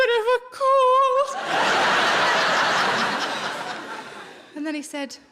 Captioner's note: audience laughing